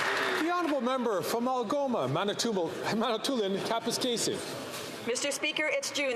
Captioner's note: some Applause